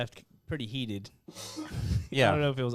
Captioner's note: laughing